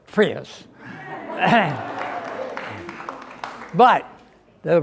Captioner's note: crowd clapping